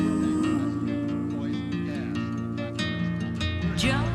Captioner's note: reminiscent music; newscaster chattering